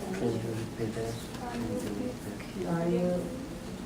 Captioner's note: light background talking